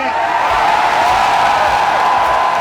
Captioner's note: cheering